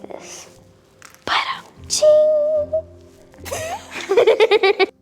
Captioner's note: laughs